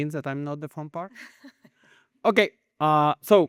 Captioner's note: chuckles